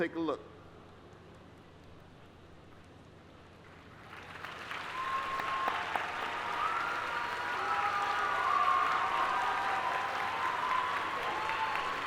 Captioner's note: applause